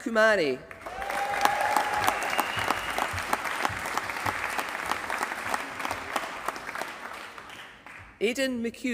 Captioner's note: applause